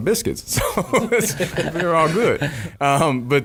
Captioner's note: laughing